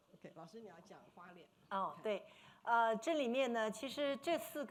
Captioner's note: speaking foreign language; speaking Mandarin